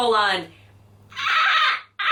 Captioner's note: attempts dolphin sounds